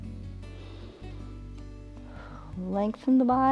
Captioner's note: inhales and exhales